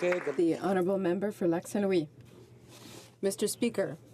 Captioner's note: applause